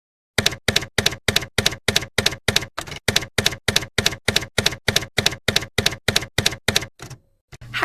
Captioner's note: typewriter keys clacking